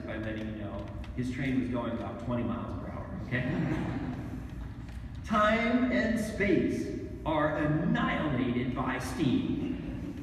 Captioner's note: laughter